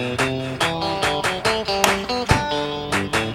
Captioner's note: bat crack